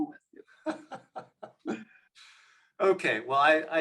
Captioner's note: laughs